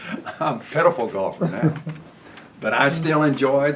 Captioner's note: laughs